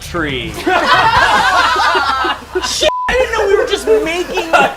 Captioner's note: group laughter